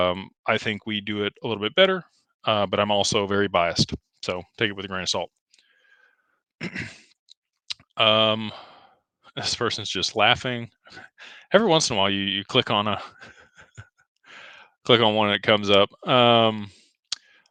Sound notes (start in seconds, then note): 6.6 clears throat; 13.0 laughter